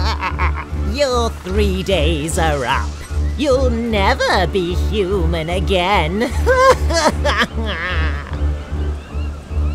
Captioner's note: evil laughter